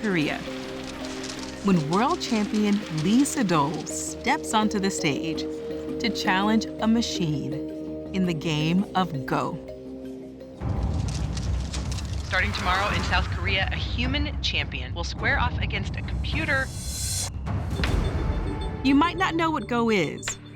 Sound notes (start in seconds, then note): 10.8 cameras clicking